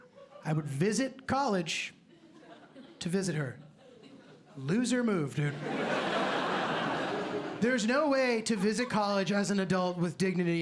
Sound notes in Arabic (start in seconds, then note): 5.6 ضحك